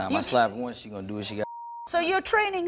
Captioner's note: beep